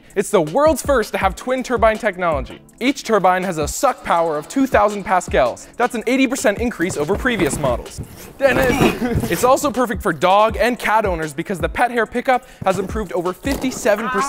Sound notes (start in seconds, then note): 6.2 boxes crunching; 8.6 grunts